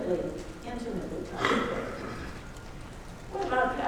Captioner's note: coughing drowns out speaker